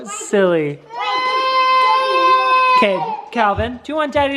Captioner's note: crying